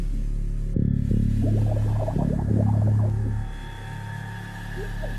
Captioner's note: bubbles escaping; dramatic music